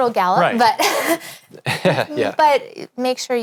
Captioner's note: laughs